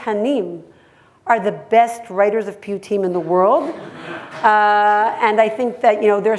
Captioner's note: hebrew; hebrew